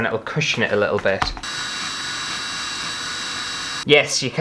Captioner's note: drill Sounds